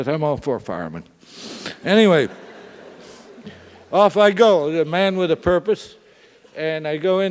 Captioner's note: laugh